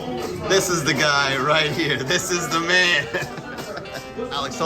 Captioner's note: laughs